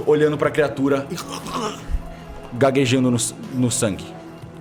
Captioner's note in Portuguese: gemido